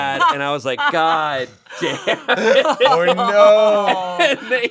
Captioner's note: group laughing